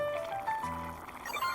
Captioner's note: boiling